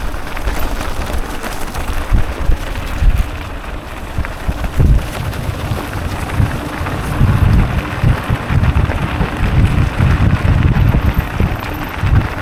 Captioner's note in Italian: Applauso